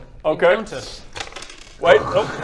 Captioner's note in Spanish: tirada de dados